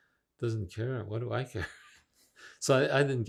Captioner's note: laughing